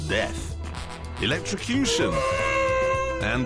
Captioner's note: horn blares